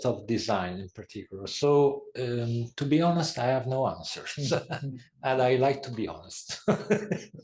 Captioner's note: laugh